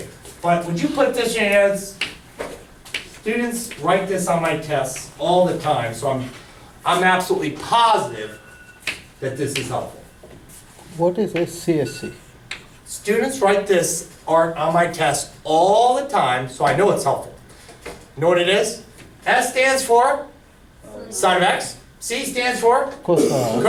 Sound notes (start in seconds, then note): 11.6 voiceover